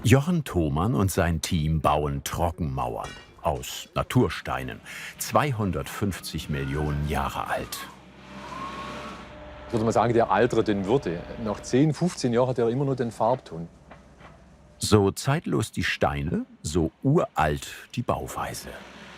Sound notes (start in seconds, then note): 8.0 excavator whirring